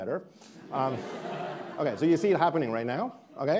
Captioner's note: attendees laughing